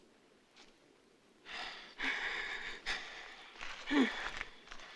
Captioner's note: heavy breathing